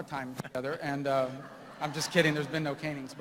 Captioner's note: laughter